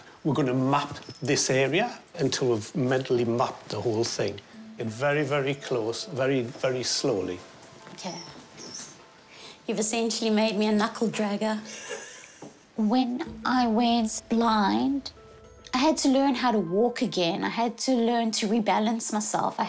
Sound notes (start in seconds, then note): 11.6 chuckles